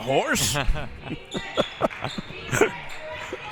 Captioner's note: laughs